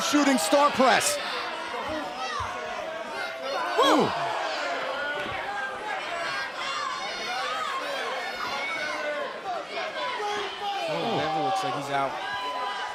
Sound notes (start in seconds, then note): 5.3 crowd chatter